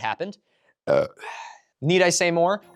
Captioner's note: burps